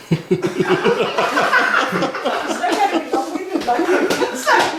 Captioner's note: cheerful laughing